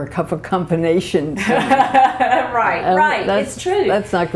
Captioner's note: laughter